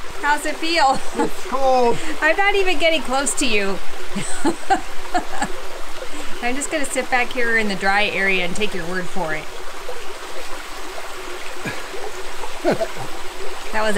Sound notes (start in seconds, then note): 5.0 laughs; 12.6 laughs